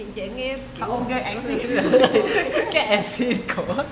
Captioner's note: laugh